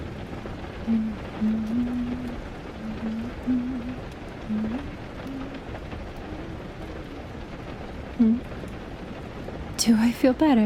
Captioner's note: sound of her humming of a tune, it's vaguely familiar